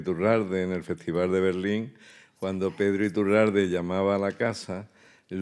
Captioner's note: speaking in Spanish